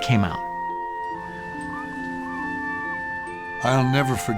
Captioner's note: seagulls squawking